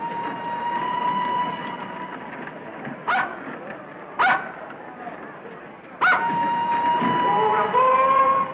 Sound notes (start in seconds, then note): 0.3 Flora barks; 3.8 whistle blows